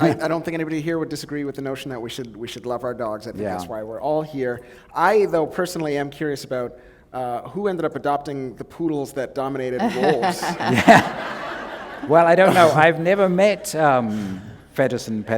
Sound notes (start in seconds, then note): 9.8 laughter